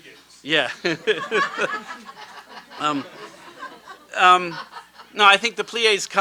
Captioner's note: laughter